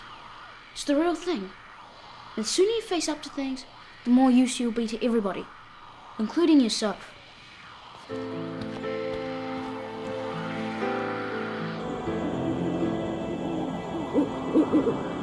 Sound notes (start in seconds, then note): 7.9 radio static; 8.1 melancholy music; 12.5 owls hooting